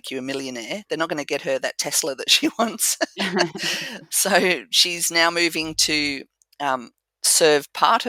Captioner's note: laugh